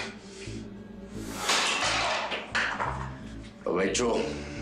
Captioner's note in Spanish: Ruido al dejar caer el plato